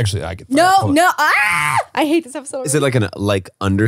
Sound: screams

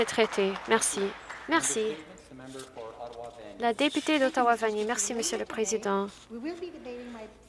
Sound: some Applause

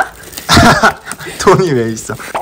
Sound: laughing

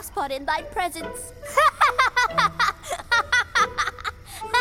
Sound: laughing

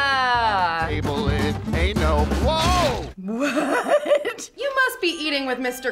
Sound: laughs

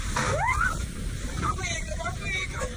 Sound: rider screams

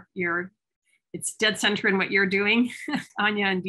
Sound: laughs

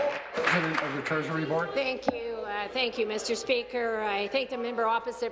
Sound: applause

